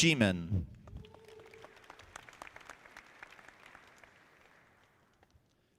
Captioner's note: audience clapping